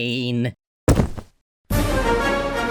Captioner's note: thud